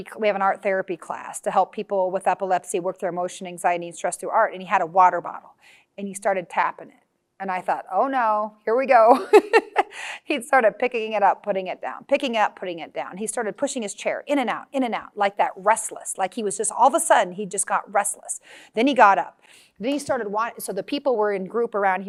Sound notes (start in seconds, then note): 9.2 laughs